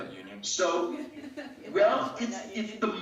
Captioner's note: laughing